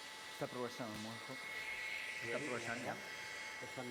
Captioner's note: non-english speech